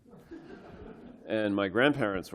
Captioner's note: laughter